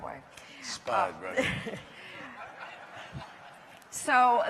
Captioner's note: laughter